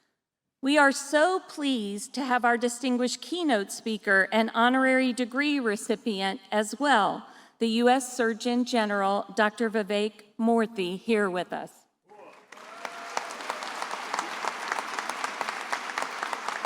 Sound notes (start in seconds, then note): 12.2 attendees applauding